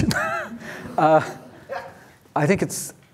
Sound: laughs

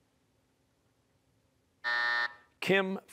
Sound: buzzer

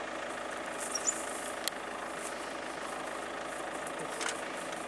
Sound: rustling

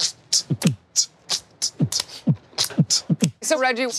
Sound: beatboxing

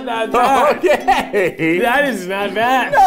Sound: laughing

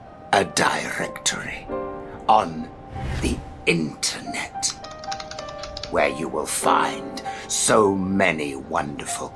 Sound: keyboard tapping noise

